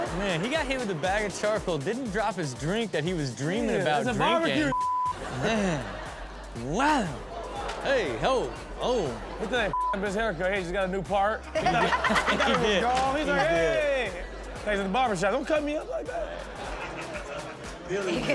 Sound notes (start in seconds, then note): 4.6 beep; 5.0 audience laughs; 9.7 beep; 11.3 audience laughs